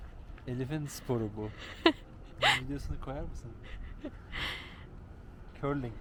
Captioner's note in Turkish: kahkaha